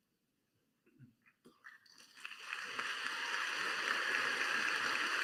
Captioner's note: applause